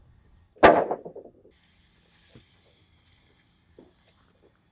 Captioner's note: wood clanking